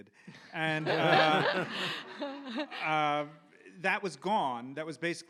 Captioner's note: audience laughs